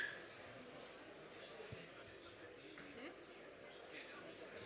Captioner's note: background chatter